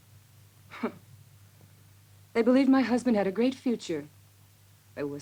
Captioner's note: scoffs